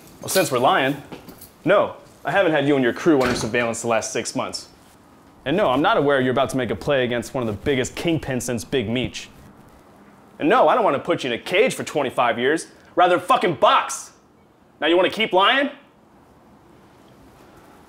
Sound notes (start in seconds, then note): none